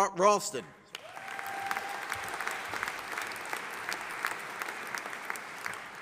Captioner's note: audience applauding